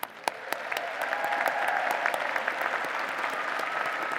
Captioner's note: applause